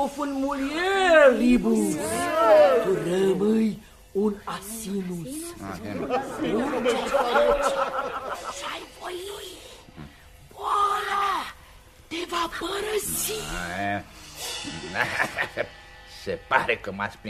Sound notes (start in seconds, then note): 10.6 screams; 14.7 laughter